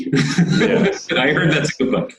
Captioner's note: laughs